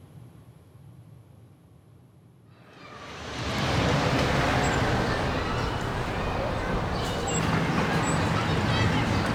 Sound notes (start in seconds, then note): 4.6 traffic rushing